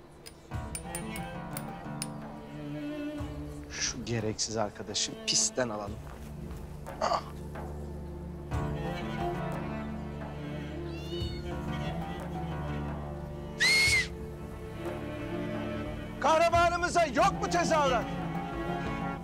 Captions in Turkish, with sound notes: [Tıklatıyor] Şu gereksiz arkadaşı pistten alalım. Ah! [Hayvan Sesi] [Islık Çalıyor] Kahramanımıza yok mu tezahürat?